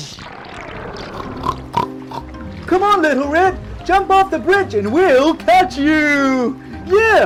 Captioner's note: pig snorts